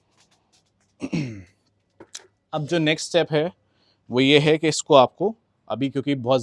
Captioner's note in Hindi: गला साफ़ करने की आवाज़